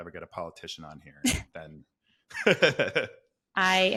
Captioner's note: laughing